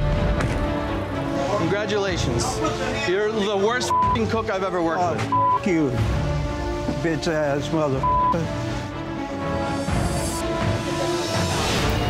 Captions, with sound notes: - Congratulations. You're the worst (beep) cook I've ever worked with. - Ah, (beep) you. Bitch ass (beep).